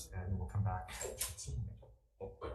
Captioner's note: door Opens